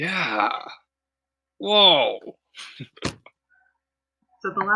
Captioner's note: laughter